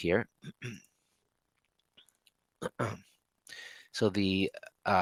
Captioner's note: clears throat